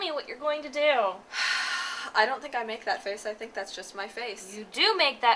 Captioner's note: sigh